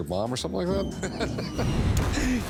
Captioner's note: laughter; bomb falls and explodes